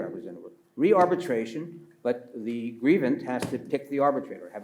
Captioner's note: pats table